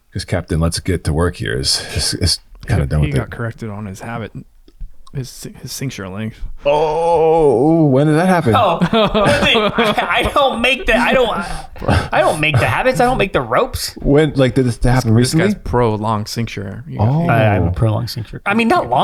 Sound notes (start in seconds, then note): 8.2 laughs; 12.7 chuckles